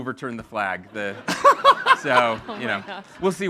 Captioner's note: all laughing